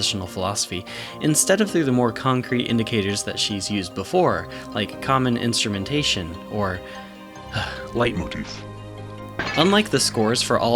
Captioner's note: sigh